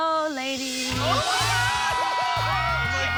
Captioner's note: shouting